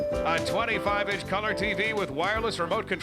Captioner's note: none